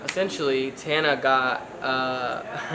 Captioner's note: chuckles